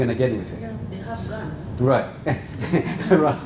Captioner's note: laugh